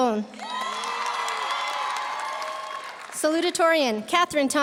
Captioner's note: audience cheering; audience applauding